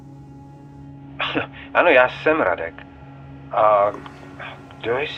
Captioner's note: James speaking in Czech; Radek speaking in Czech